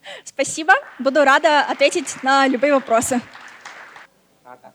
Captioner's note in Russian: аплодисменты